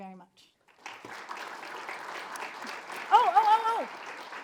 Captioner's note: attendees applaud